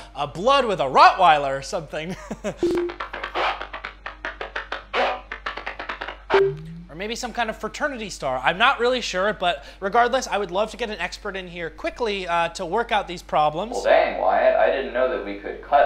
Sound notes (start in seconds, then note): 3.0 laughs